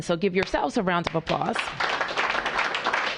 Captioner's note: applause